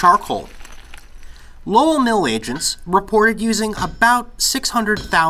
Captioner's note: sharp, metallic sound of hammer on metal